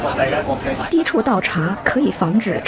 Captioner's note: speaking mandarin